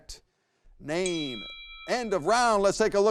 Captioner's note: bell dings